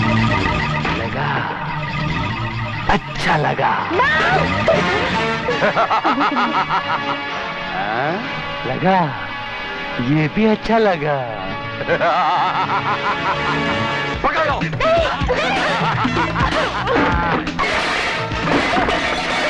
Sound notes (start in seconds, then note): 5.4 laughs